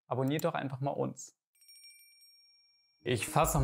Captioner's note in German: Glöckchenläuten